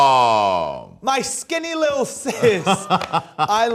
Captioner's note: laughs